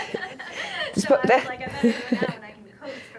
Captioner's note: voiceover